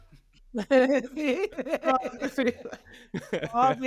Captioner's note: laughing